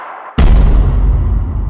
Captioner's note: stomp